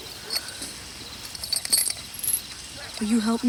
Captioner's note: chain clinks